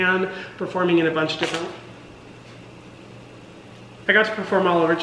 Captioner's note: stove crackles